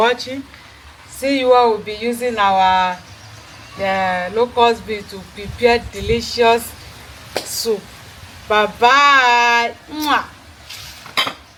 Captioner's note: kisses